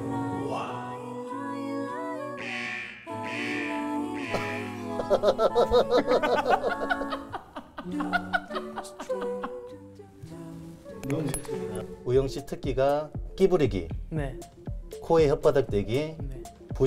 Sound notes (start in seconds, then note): 4.2 laughing